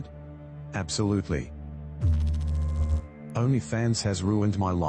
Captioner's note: electrical noise